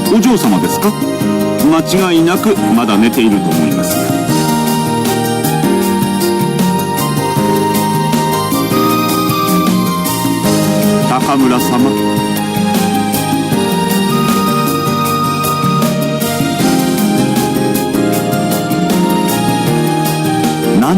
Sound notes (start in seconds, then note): none